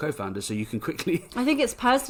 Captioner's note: laughs